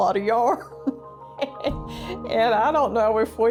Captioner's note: laughs